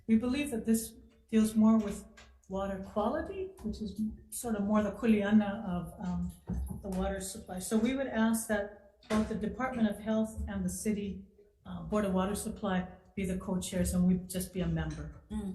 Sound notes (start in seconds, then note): 4.7 speaks in Olelo Hawaii